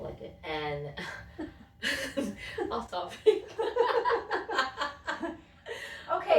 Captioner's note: laughter